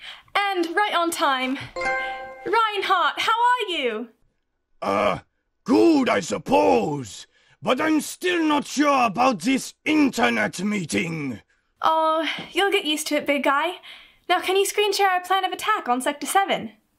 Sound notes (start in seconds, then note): 4.6 deep voice